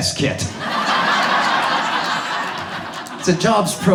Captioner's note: audience laughs